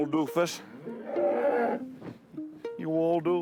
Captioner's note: cow mooing